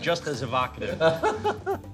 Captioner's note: laughter